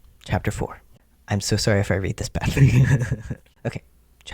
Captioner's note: laughs